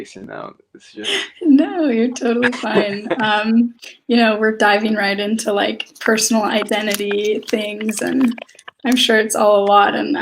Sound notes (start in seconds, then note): 3.0 laughs